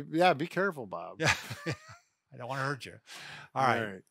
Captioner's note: laughing